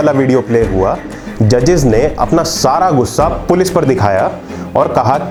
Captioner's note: sound Effect: Heavy Thud... then Silence